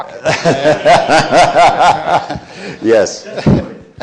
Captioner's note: laughing